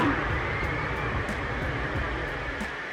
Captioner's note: lift off noises